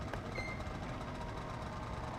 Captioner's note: door creaks